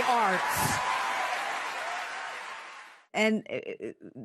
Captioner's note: audience cheering